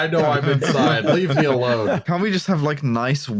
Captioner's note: laughter; interrupted by laughing